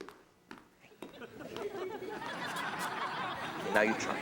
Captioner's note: audience laughs